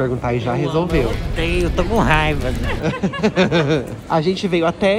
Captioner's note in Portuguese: risos